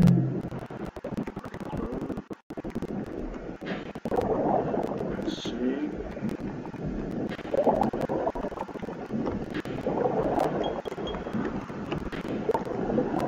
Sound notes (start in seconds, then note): 2.1 sound of submarine